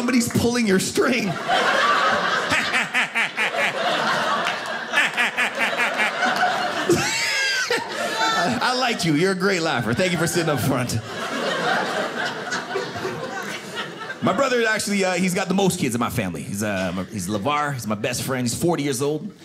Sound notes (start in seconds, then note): 1.4 laughing creepily